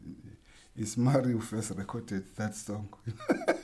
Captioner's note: laughs